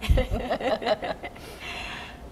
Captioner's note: laughter